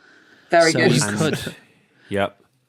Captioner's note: chuckles